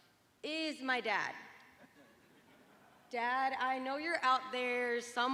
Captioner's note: laughter